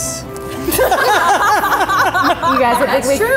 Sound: laughing

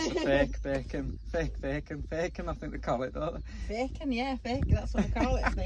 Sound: laughing

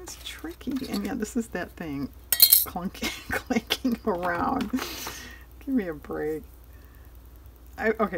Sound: laughs

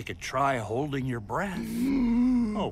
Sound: inhales

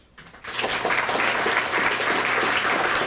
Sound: applause

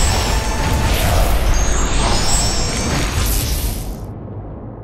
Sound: sizzling

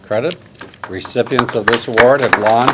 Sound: applause

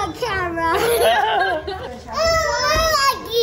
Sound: laughing

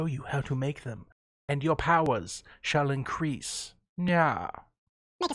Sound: whispers

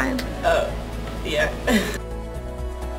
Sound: laughing; pulsing music

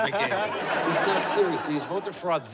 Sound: laughter

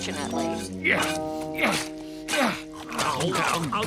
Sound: grunting

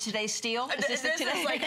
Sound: laughter

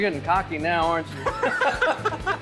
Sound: laughing

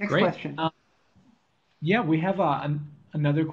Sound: voiceover

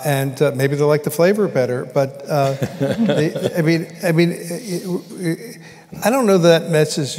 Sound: laughter

